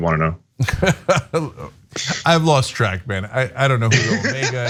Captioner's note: laugh